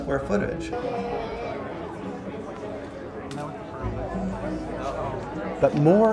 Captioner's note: indistinct background chatter